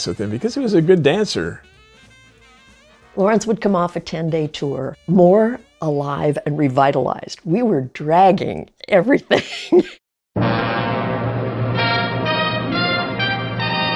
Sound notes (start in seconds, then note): 9.3 laughs; 10.4 orchestral fanfare